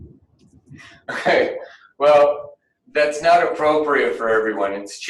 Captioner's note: chuckles